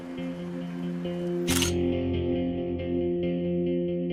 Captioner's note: camera shutter sound